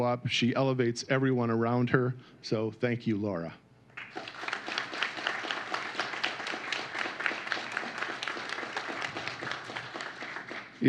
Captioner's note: applause